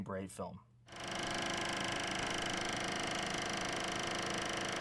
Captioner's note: projector rolling